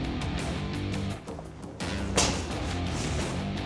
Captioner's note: thudding; slashing